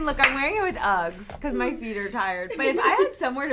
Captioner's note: laughs